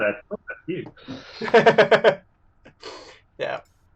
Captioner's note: laughter